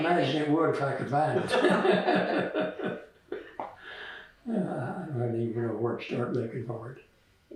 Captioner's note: laughter